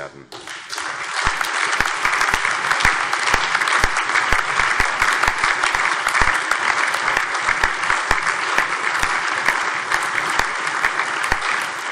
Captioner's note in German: Allgemeiner Beifall